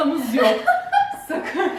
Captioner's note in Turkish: gülüşmeler